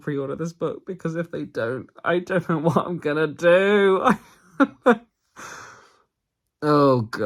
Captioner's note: laughs